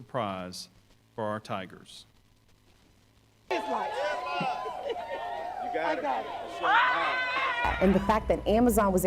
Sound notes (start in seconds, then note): 3.4 crowd noise